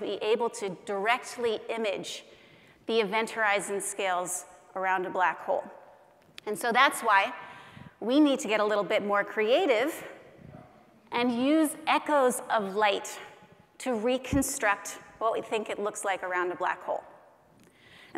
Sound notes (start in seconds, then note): none